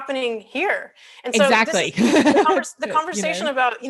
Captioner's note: laughs